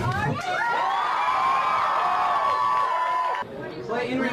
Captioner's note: cheering